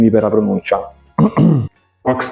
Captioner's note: cough cough